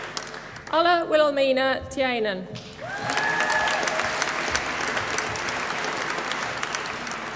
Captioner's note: applause